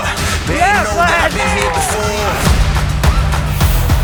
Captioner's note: cheering